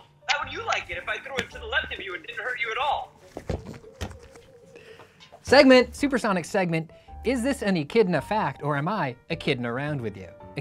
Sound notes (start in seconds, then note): 3.4 ball thuds flatly